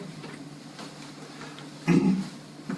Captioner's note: cough